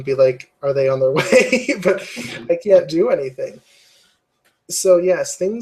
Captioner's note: laugh